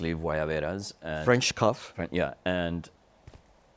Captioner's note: speaks Spanish